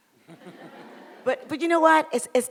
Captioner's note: audience laughs